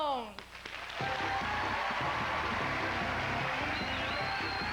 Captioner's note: loud cheers and applause